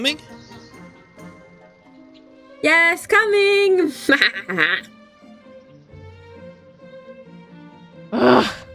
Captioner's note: evil laugh